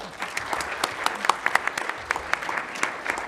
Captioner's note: applause